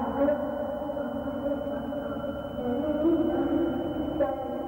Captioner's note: humming